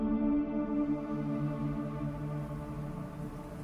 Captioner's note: dramatic music; city traffic